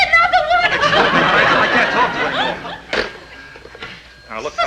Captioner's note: audience laughing